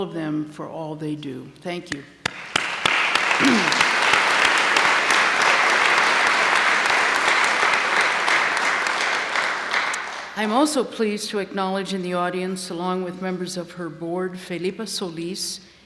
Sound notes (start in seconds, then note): 2.2 applause